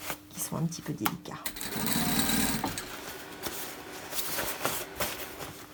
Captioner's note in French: Bruit de machine à coudre